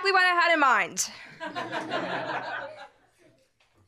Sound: laughter

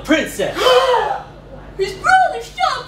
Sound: turns to and super dramatically gasps

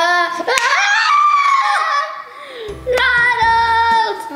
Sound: shouting

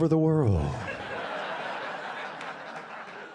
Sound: laughter

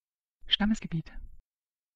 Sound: fast Pronunciation

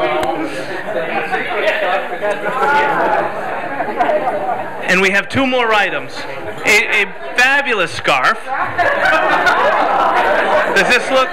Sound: laughter

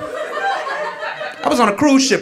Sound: audience laughing

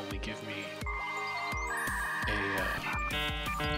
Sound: dialup noises; dialup noises INTENSIFY

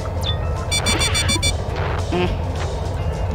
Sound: drone taking damage sound cue; scrap gathered sound

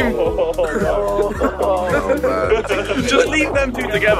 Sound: all mumbling

